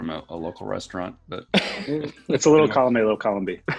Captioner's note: laughing